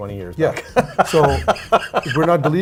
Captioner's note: laughs